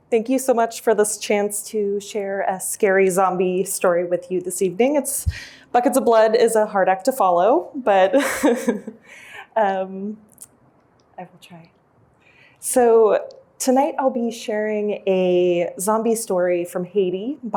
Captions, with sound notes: Thank you so much for this chance to share a scary zombie story with you this evening. Buckets of Blood is a hard act to follow but-- [CHUCKLES] I will try. So tonight I'll be sharing a zombie story from Haiti